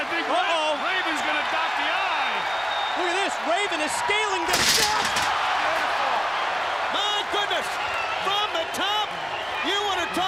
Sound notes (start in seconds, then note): 5.5 crowd cheering